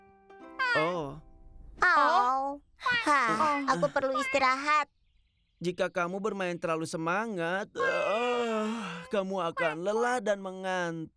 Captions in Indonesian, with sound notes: [reaksi terkejut] Aku perlu istirahat. Jika kamu bermain terlalu semangat... [menguap] kamu akan lelah dan mengantuk.